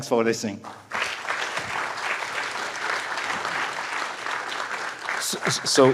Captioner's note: applause